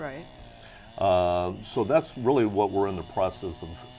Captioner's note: chainsaw humming